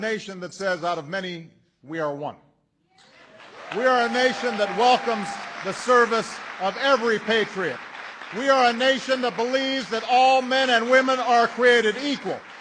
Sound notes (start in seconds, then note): 3.0 applause